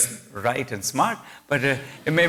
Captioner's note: laughter